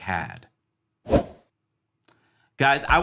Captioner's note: graphic whooshes